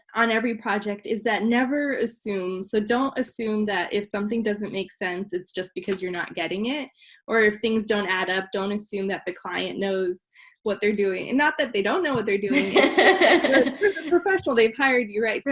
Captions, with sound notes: on every project is that never assume, so don't assume that, if something doesn't make sense, it's just because you're not getting it? Or if things don't add up, don't assume that the client knows what they're doing, not that they don't know what they're doing. (laughing) You're the professional, they've hired you, right?